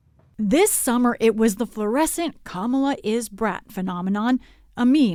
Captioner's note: voice-over